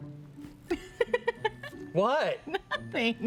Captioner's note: laughs